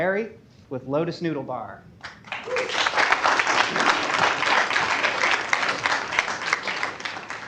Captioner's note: applause